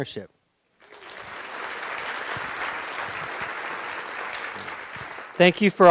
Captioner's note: applause